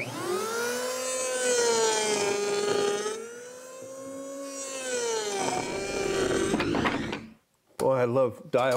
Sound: tool buzzing

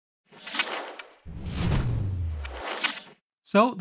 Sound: logo whooshing

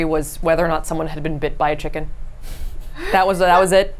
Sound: laughs

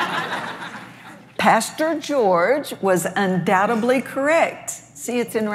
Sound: laughs

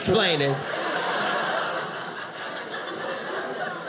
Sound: audience laughing

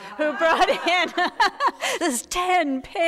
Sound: audience laughing; laughs

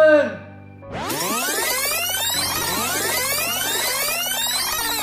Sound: electronic rewinding

